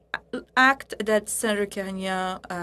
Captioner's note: speaking French